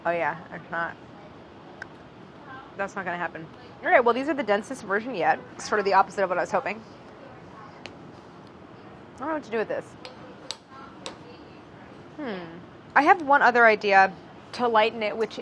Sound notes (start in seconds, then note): 7.9 snaps; 10.6 smacking